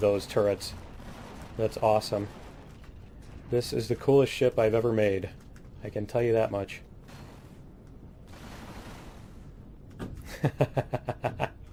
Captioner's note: laughs